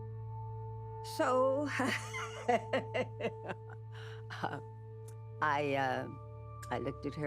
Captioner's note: laughs